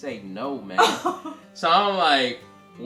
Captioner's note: laughs